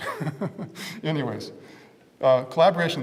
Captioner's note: laugh